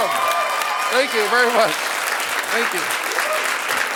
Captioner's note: audience applauding